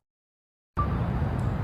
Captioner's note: iPhone video recording beep